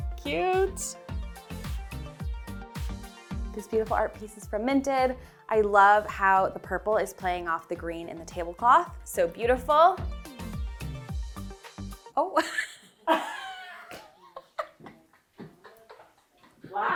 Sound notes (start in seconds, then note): 1.5 light pop music; 12.2 chuckling; 12.4 man offscreen laughing